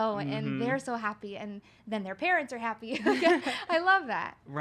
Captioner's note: laughs